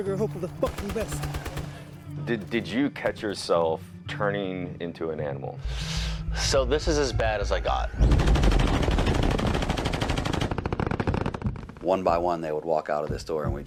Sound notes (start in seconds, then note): 8.0 gunfire rattles